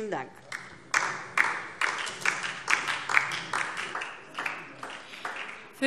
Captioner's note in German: Beifall DIE LINKE und SPD